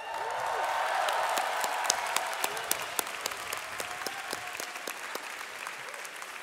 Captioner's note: audience cheering and applauding